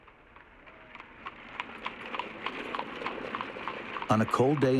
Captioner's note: horse hooves clopping